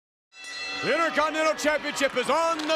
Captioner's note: bell rings